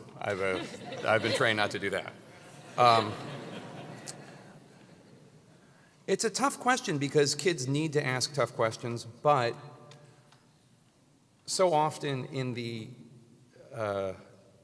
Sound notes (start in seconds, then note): 2.7 laugh